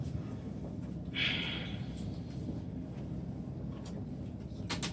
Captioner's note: takes a very deep breath